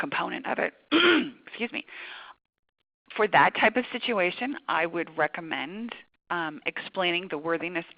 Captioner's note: clearing throat